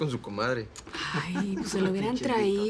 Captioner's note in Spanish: Risas